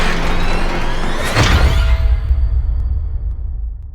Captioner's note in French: la musique s'arrête; choc métallique